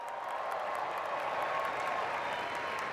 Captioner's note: applause; cheers and applause